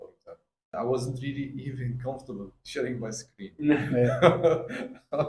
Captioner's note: laugh